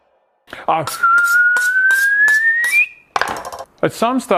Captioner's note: whistles